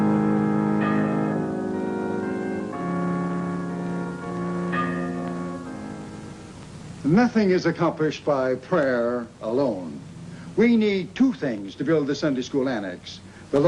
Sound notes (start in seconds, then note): 0.0 bell pealing